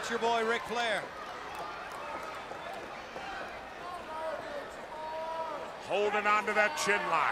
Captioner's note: crowd chatter